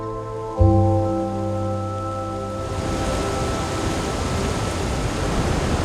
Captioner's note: wind blowing